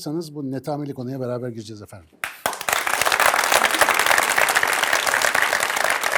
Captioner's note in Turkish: alkış